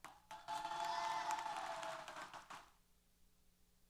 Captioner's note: applause & Cheers